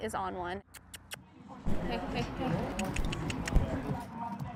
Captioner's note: clicking